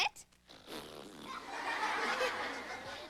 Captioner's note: raspberries